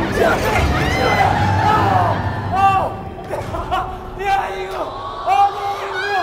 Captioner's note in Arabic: صراخ